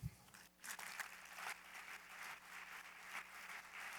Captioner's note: applause